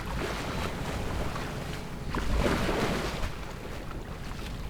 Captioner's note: waves splashing